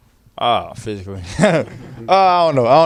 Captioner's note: background laughter